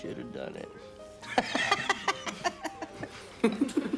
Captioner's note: laughs